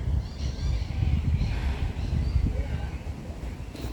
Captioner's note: sighs